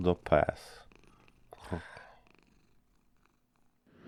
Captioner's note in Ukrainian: муркотіння